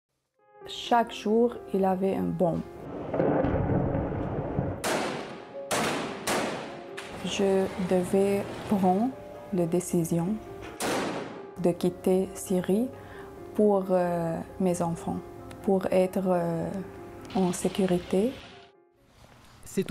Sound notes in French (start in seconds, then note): 5.6 tirs